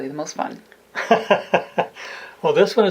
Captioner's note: laughing